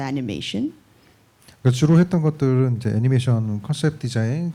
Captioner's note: speaking korean